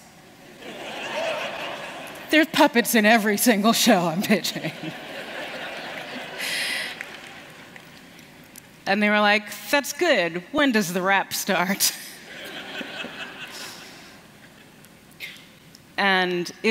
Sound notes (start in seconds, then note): 0.5 laughter; 7.7 laughter